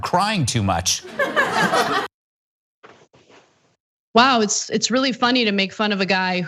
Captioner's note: laugh